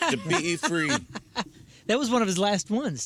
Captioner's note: laughing